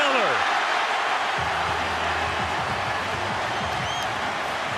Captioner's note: cheering